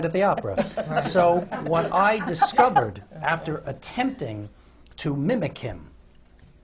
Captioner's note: laughter